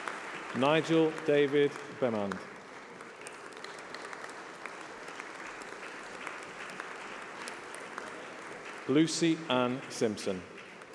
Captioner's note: applause